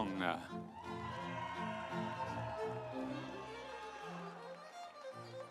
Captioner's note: audience cheering; instrumental music